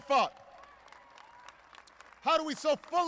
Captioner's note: applause